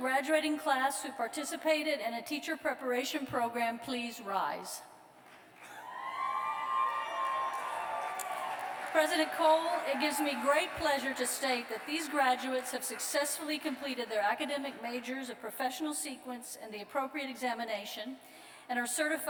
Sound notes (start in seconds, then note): 8.0 cheers